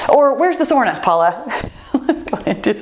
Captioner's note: laughs